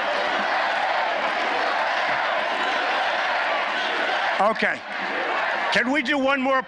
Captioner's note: applause